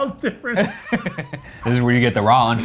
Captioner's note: laughing; laughs